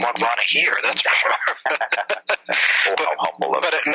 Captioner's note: laughing